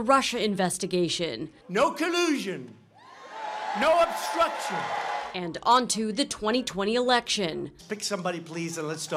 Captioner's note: rally cheers